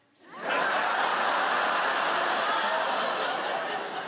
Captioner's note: audience laugh